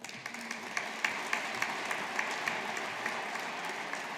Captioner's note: audience applauding